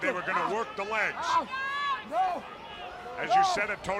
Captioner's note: crowd chatter